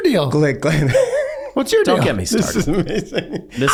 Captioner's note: laughs